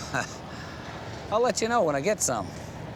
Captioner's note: chuckles